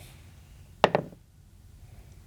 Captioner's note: dice rolling